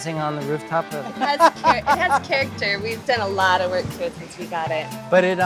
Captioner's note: laughter